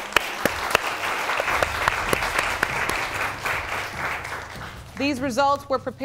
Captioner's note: applause